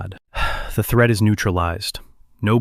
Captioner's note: sighs